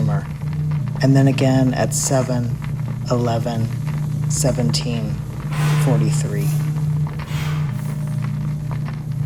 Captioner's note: blowing sound